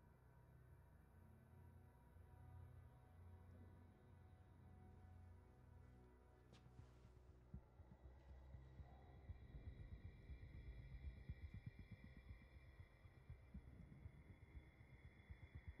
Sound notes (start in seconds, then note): none